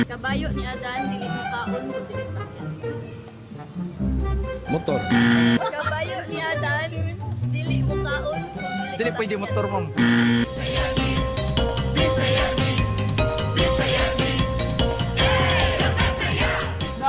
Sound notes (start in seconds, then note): 5.0 buzzer blares; 9.9 buzzer blares; 10.4 theme music playing